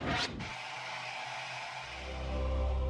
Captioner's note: static